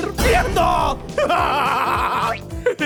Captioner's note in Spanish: Carcajadas